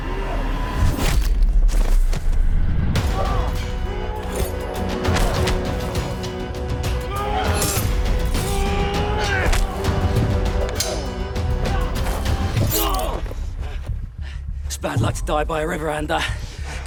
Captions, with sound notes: (all shouting) (dramatic music) - It's bad luck to die by a river, Ander.